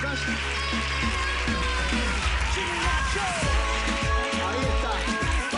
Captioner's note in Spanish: Aplausos